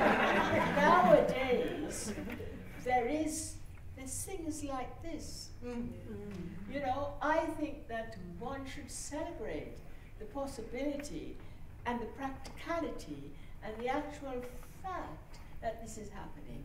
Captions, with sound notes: ..but nowadays, there is...there's things like this. (MURMURS OF AGREEMENT) You know? I think that one should celebrate the possibility and the practicality and the actual fact that this is happening...